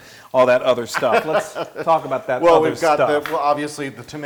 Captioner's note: laugh